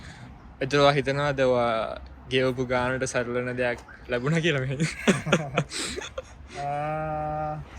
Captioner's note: chuckles